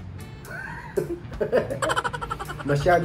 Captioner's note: laugh